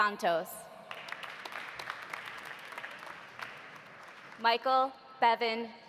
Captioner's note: audience applauding